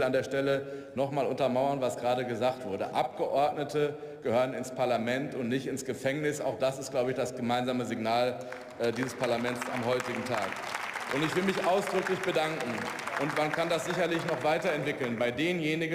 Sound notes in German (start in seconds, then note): 10.3 Beifall